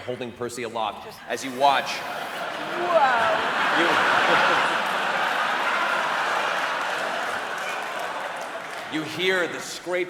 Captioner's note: laughter